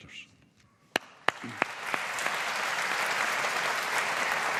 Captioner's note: audience applauding